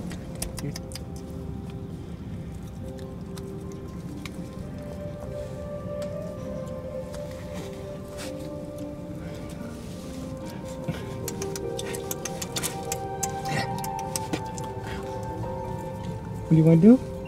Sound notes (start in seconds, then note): 0.0 tongue clicks; 10.9 tongue clicks